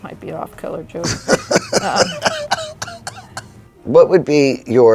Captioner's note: laughing